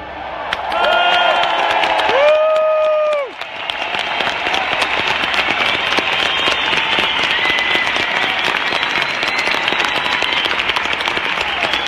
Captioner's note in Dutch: applaus